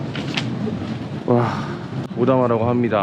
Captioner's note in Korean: 한숨